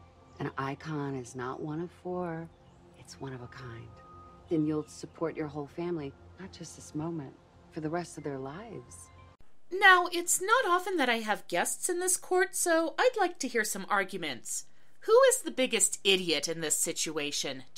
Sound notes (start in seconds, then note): none